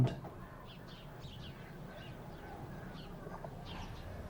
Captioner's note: birds chirping